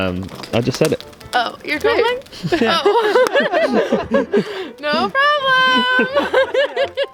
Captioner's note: laughter